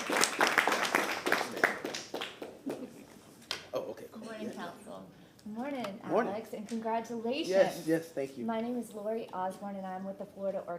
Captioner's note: applause